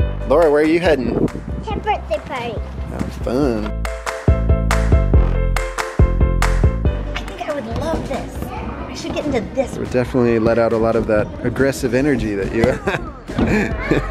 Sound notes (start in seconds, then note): 4.5 upbeat music; 13.4 laughs